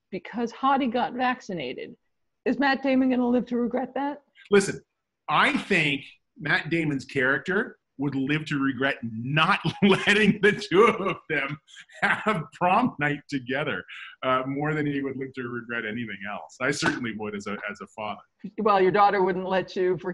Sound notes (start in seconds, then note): 9.3 laughs